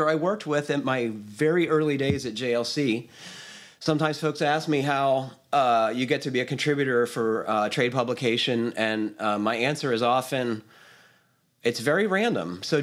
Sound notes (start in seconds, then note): none